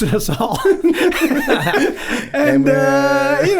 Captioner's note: group laughs